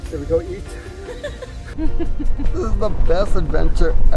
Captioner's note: laughing